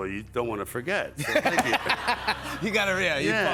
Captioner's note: laughs